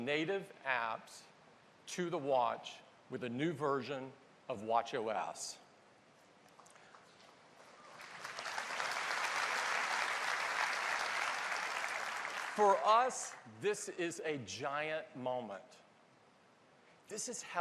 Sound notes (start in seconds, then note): 11.4 applause